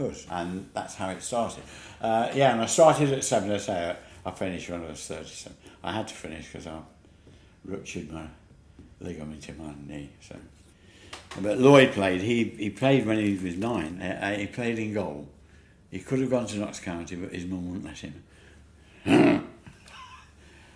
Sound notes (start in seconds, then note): 19.0 grunt; 19.0 laughs